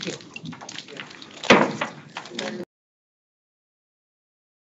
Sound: gavel taps

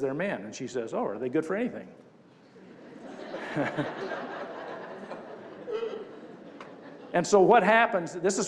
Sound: crowd laughs

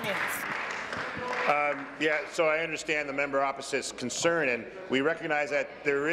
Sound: applause

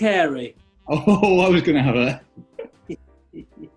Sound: chuckles

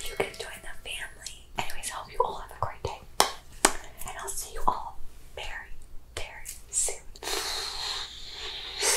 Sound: kisses

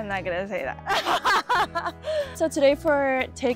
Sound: laughing

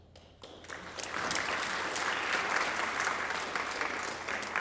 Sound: audience applauds

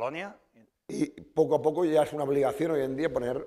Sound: speaking spanish

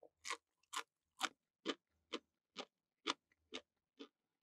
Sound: crunchy sound when biting

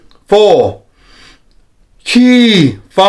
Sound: inhales

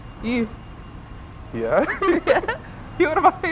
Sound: laughter

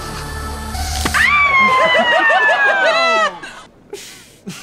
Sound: screams; laughs

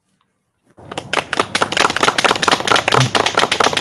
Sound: applause

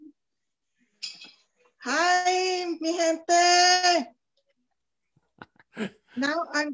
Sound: chuckles

